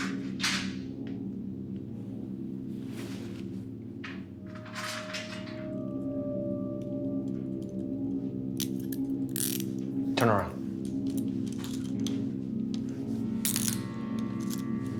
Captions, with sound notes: (tense music) (handcuffs zipping closed) Turn around.